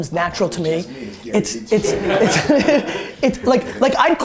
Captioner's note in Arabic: ضحك المجموعة